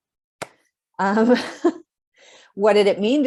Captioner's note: chuckles